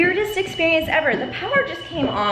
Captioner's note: alarm blaring